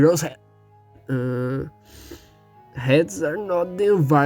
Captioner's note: inhale